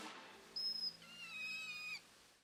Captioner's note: river otter squeaking